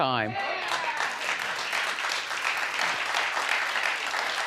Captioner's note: audience applauding